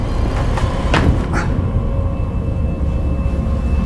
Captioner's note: shoes thud; systems humming; tense music continues